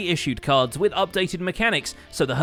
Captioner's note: none